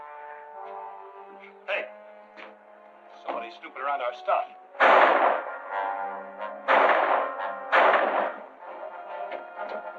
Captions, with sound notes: Hey! There's somebody snooping around our stuff. [gunshot] [gunshots]